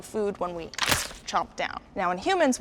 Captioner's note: chomping bite